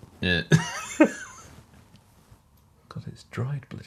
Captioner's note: laughing